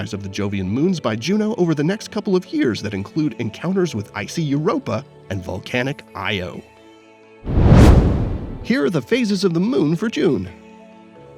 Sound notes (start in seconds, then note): 7.4 whoosh